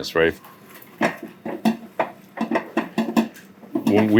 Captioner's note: machine thunking